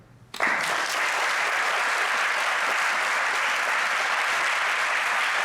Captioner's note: audience applauds